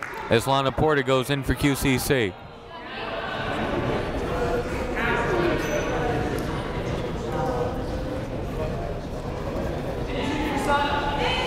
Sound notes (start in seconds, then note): 3.7 crowd chattering fainting and cheering